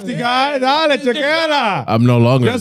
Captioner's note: speaking In Foreign Language